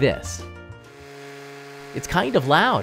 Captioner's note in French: bourdonnement